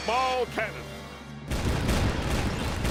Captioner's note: canon firing